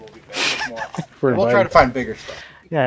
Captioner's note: laughs